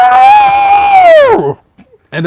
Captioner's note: screaming